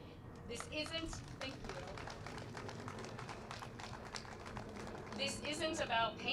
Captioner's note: applause